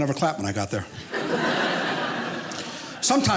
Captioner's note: audience laughing